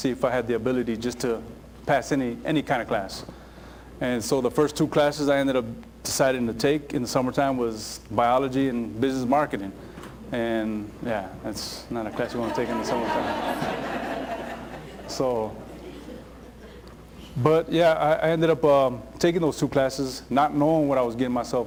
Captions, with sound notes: if I had the ability just to pass any, any kind of class. And so the first two classes I ended up deciding to take in the summertime was biology and business marketing! And yeah, that's what I ended up taking in the summertime. (Laughter) But yeah, I ended up taking those two classes not knowing what I was getting myself